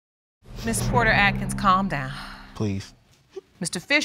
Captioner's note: sighs